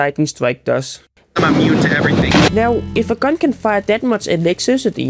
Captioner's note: gets struk by lightning